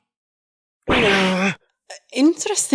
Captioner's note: growls